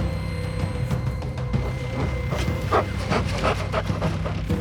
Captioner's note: animal pants